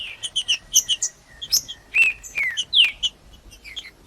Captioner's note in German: trinca ferro cantando